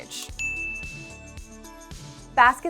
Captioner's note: bell ringing